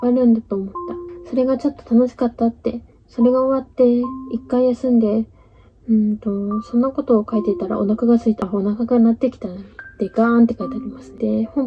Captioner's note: gasp